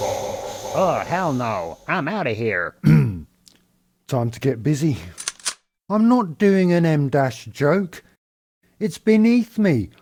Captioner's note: gun cocking sound